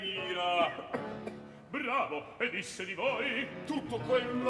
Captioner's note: coughs